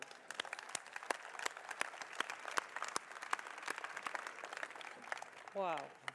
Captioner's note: applause